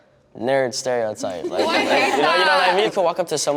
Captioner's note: laughter